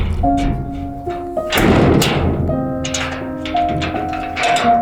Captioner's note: metal door cracking